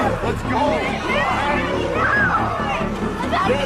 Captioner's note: zombies growling